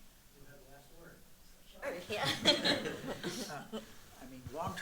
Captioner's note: laughter